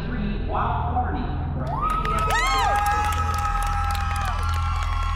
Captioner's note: cheers and applause